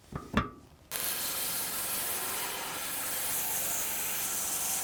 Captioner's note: saw whizzing